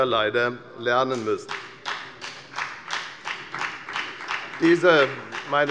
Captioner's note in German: Beifall bei der FDP